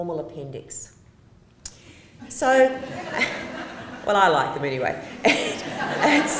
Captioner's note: laughter